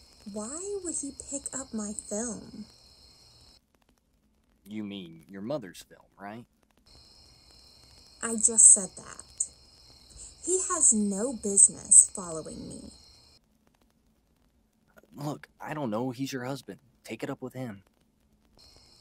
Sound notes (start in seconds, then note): none